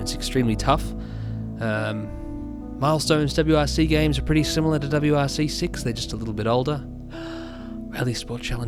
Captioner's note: inhales